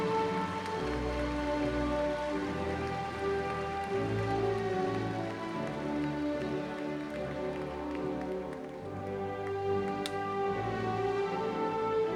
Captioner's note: cheers and applause